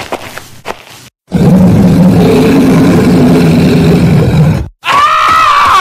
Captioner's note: Roar